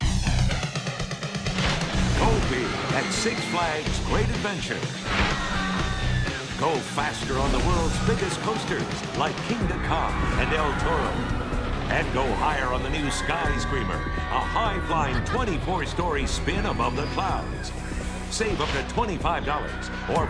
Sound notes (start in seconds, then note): 0.1 intense rock music; 5.5 riders screaming excitedly